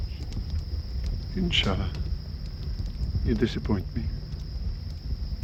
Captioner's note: speaking in foreign language